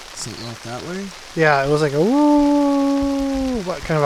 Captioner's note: howling